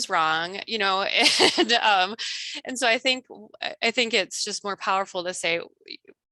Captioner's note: laughs